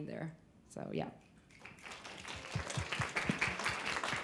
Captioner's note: applause